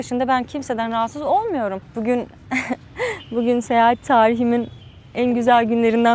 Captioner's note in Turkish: kahkaha